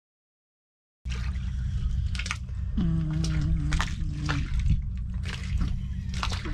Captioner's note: snore